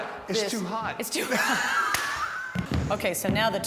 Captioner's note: both laugh